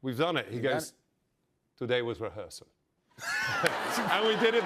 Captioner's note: laughter